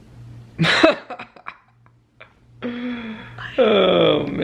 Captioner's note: laughs